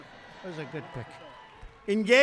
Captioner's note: applause